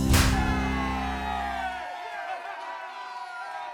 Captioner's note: cheering